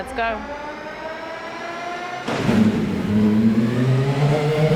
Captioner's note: car revs